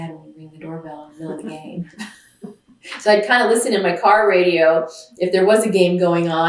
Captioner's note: laughs